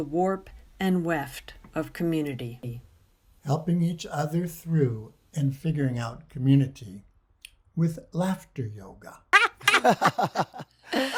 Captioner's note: lot's of laughing! oh man